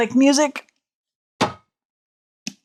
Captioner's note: thud